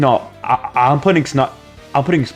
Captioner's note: stutter Moment